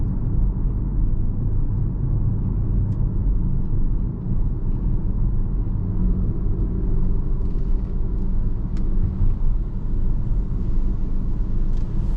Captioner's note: car engine roaring